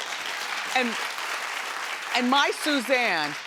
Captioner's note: audience clapping